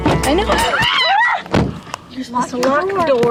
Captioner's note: screams and door slamming